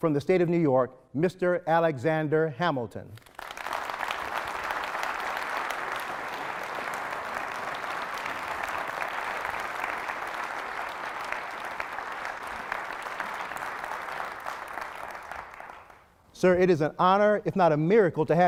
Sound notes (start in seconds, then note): 4.2 applause